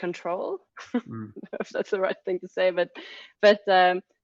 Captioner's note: laughs